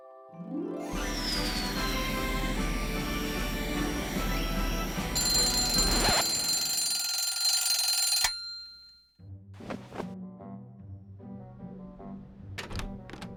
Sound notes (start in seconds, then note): 0.9 air blows; 5.2 alarm clock rings